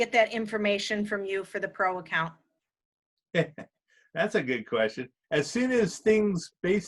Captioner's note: chuckles